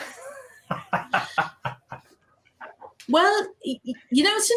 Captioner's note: laughing